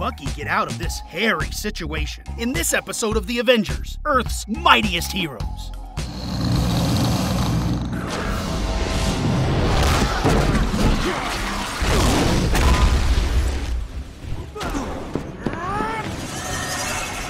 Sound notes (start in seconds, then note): 6.2 growling; 11.7 wincing